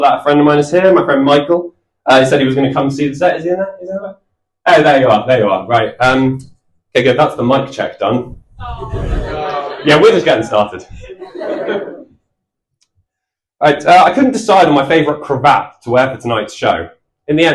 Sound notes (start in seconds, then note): 8.6 audience groan